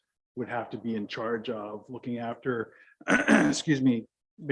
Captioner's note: clears voice